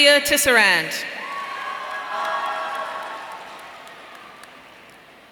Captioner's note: audience cheering